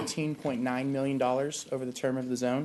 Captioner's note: coughing